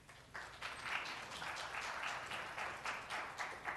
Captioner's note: applause